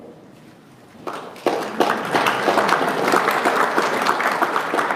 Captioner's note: audience applauding